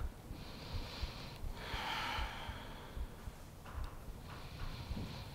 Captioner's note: inhaling and exhaling deeply